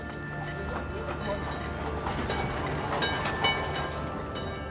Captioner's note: bell clanging